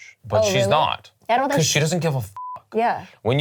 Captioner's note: beep